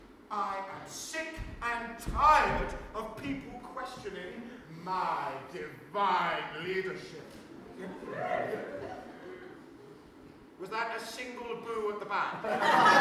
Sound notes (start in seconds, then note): 7.8 audience woos with a singular boo